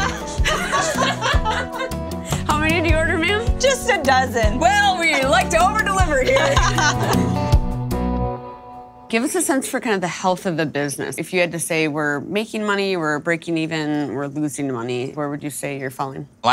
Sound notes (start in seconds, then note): 0.0 laughs; 6.6 laughs